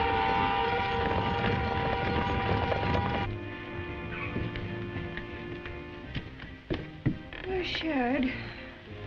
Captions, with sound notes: (hooves thudding) - Where's Sharad?